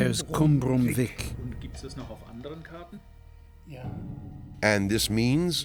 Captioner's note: in German; men speaking German; man in German